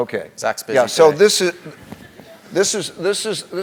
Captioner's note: laugh